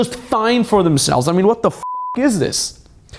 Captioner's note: beep